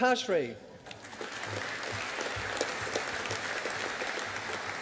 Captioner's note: audience applauding